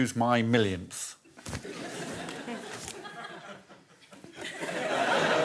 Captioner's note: laughter